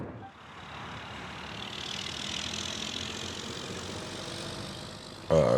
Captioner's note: traffic noise